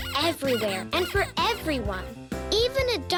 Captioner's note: squeaking